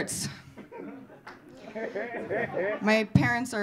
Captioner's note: audience laughing